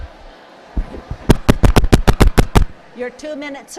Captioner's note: tapping microphone